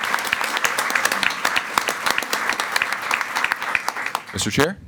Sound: everyone applauding

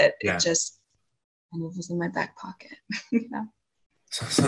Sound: chuckles

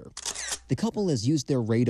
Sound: camera shutter sound

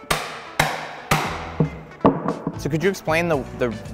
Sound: hammer banging

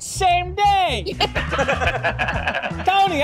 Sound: laughing

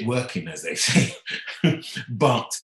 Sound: laughing

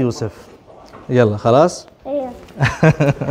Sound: Arabic

